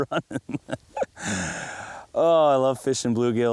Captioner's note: laughs